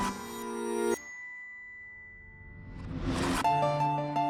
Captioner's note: ding